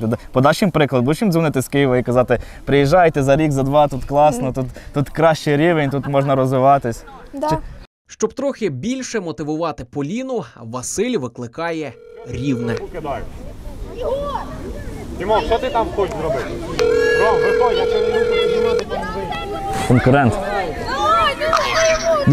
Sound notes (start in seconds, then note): 8.0 voiceover; 16.8 ringing tone